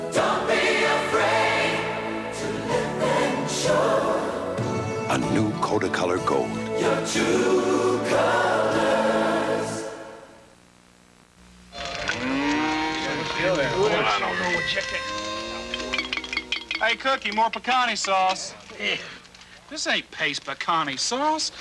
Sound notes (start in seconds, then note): 13.0 indistinct chatter of cowboys; 15.6 hits spoon against glass jar trying to get last bit of picante sauce